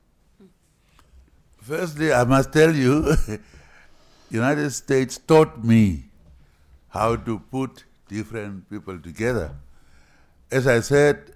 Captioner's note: laughs